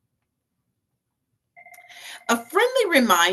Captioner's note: phone ringing